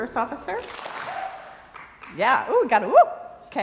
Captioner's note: crowd applauds